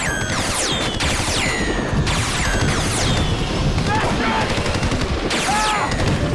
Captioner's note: gunshot